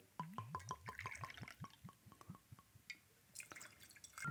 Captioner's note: liquid pours